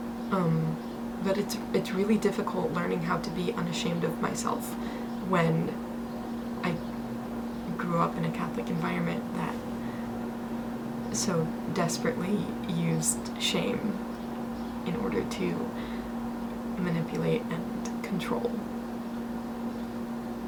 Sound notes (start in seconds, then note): none